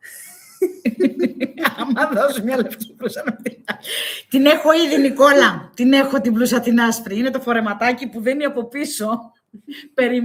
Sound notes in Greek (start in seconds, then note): 0.0 γέλια